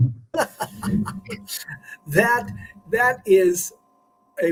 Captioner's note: laughter